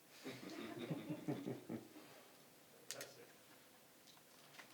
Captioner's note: people laughing